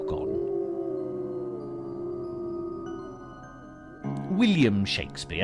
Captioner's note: dogs howling